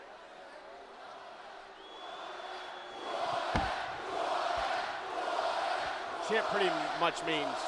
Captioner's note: crowd cheering